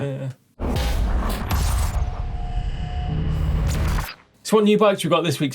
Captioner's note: electronic rumbling and whirring